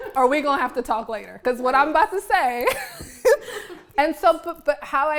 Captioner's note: laughs